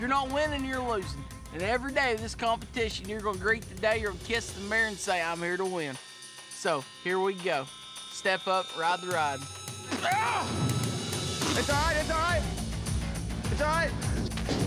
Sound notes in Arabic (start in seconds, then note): 9.7 خرخرة